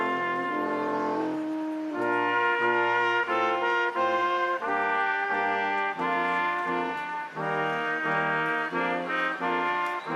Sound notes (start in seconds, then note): 2.0 crowd applauding; 2.0 instrumental music continues